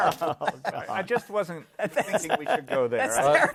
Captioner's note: laughing